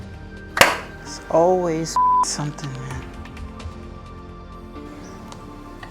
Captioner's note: beep